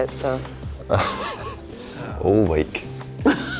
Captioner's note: Harris laughing